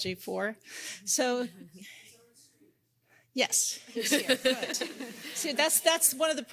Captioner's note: laughing